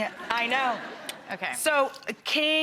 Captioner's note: audience laughs